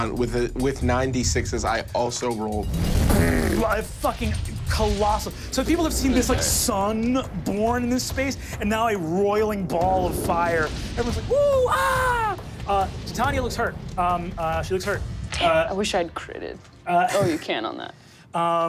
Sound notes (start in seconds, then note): none